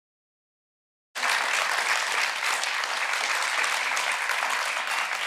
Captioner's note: audience applauding